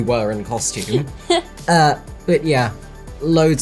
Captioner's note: chuckles